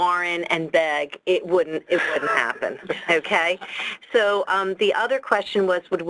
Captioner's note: laughs